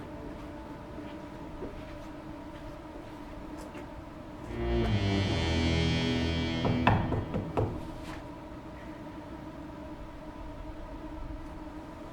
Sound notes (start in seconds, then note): 6.1 dramatic foreboding music; 6.1 knocks